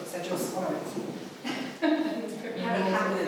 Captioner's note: laughing